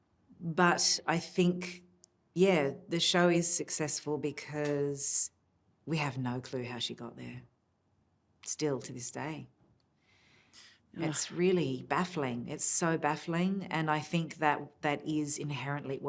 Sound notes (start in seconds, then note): none